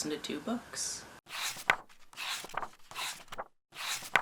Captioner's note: pages turning